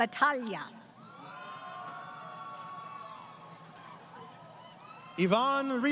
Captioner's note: crowd Cheering